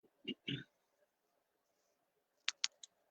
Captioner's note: clears throat